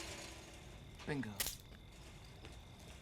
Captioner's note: branch Snaps